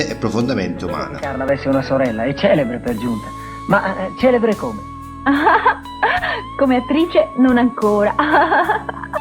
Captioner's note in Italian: risate